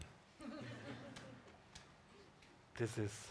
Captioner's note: audience chuckling